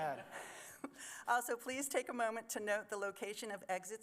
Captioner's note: chuckles